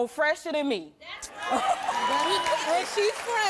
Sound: cheers

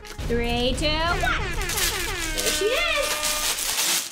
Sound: horns blazing; paper rustling

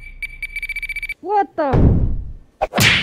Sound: explodes

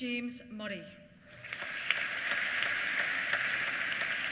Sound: applause

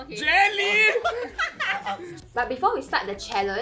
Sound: laughing

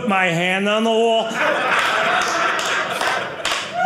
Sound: audience laughing

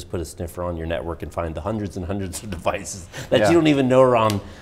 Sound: laughs

